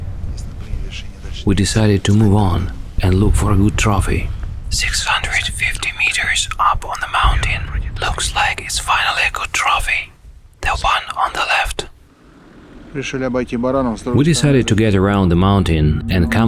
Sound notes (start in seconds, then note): 0.3 in a low voice; 4.9 whispers; 10.8 whispers